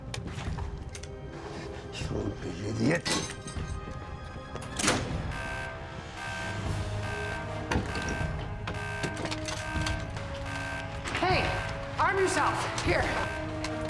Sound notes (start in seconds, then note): 1.4 speaking Slavic language; 4.8 alarm sounding